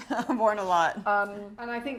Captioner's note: chuckles